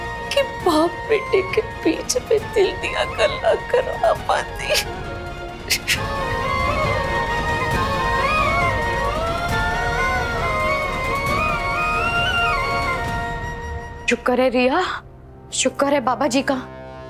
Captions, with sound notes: I could make them express their feelings to each other. [sobbing] Thank goodness, Ria. Thank the Lord.